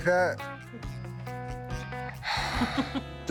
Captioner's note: sighs; chuckles